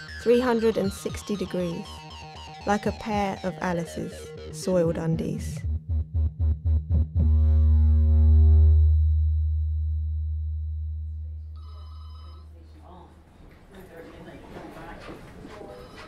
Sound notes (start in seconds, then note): 8.7 machine buzzing fades; 11.5 phone rings; 12.4 hospital sounds and distant voices